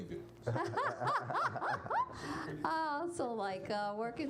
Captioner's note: laughing